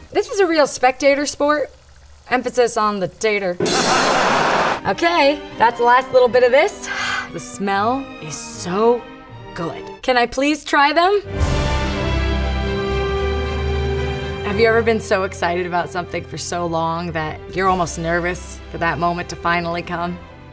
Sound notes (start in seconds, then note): 3.9 audience laughing; 7.1 sighs; 11.3 dramatic classical music